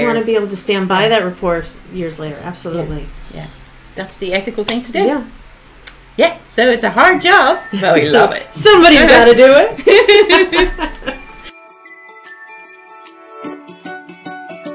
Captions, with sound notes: - You want to be able to stand by that report years later. Absolutely. - Yeah. That's the ethical thing to do. - Yeah. - Yeah. So it's a hard job but we love it. - Somebody's got to do it. (Both laughing) (upbeat music)